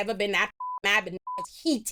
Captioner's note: beep